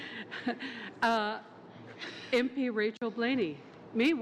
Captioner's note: laughter